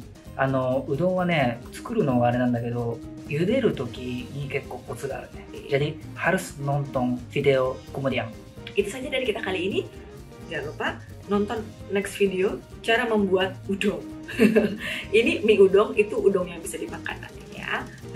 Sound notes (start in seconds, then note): 14.4 laughs